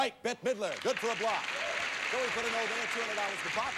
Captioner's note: audience applauding